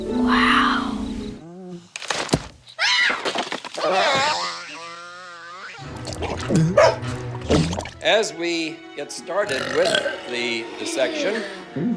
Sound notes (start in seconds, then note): 2.7 screams; 3.8 e.t. screeches; 9.4 burps